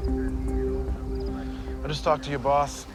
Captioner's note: crickets chirping